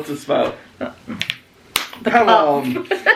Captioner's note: hands slapping